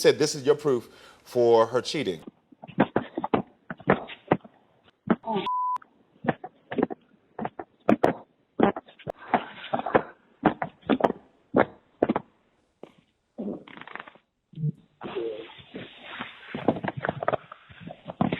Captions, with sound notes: this is your proof for her cheating. (muffled audio of the voicemail plays)